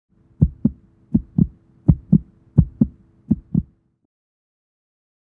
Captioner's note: heartbeat